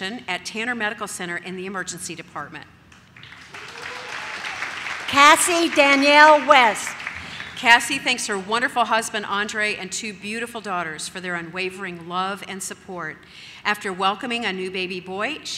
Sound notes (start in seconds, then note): 3.1 audience claps